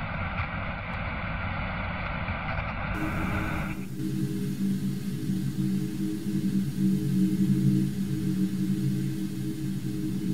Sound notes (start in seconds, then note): 7.3 tv static